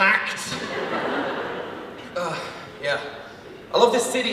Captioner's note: audience laughs